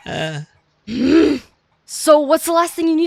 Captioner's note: angry noises